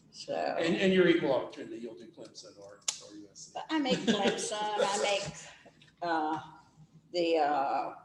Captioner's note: laughs